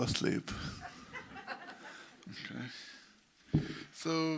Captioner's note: audience laughs